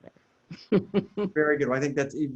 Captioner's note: laughs